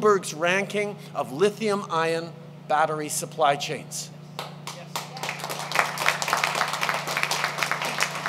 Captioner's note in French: Applaudissements